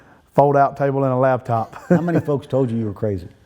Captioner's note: laughing